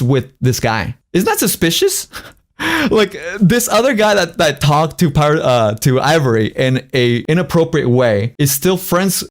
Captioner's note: laughs